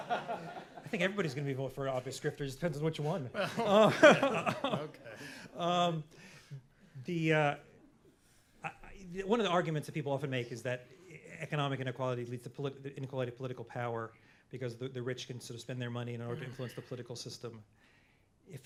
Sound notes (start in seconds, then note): 0.0 laughter; 3.2 laughter